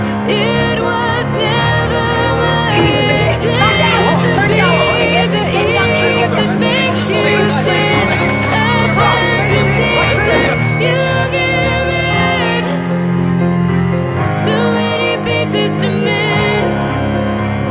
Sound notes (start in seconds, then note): 5.6 shouting